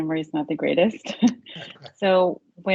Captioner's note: chuckling